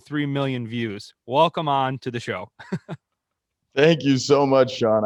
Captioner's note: laughs